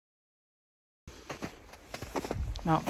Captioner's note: snow crunches underfoot